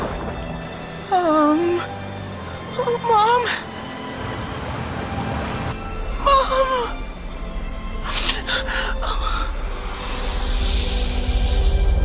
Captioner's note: cries